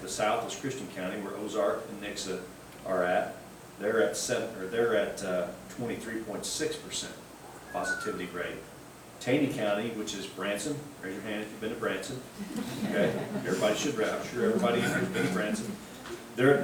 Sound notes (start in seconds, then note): 12.4 group laughing